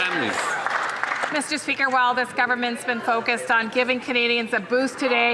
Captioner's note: some Applause